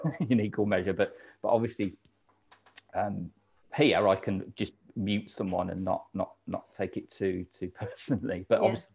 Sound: laughing

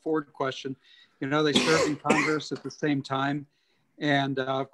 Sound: coughing

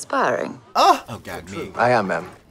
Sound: exclaiming

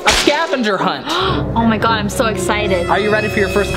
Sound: gasps

